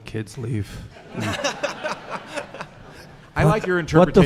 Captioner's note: audience laughing